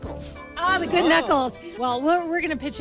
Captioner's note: laughs